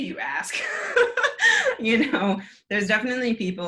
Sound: laughs

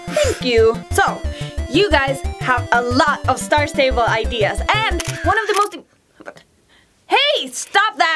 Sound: camera shutter

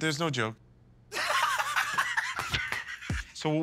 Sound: laughs

